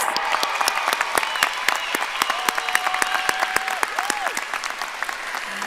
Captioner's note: audience applauding and cheering